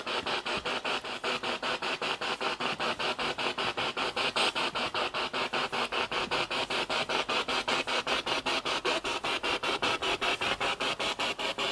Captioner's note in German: Noise of the spiritbox in the background